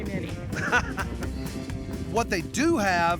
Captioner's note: chuckling